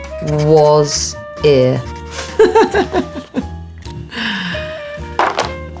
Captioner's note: Alexa chuckling